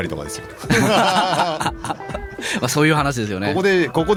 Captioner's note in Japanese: 笑い